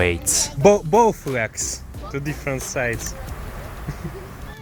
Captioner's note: in Bisaya